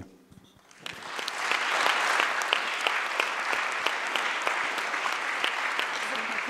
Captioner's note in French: le public applaudit